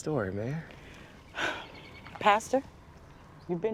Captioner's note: sighs